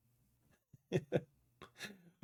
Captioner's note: laughs